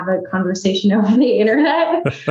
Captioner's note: chuckles; laughs